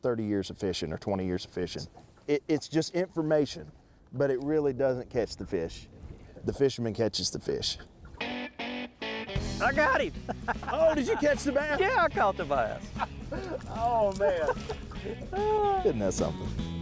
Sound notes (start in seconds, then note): 7.8 upbeat country music; 12.7 laughing